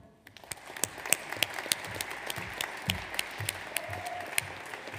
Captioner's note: audience applauds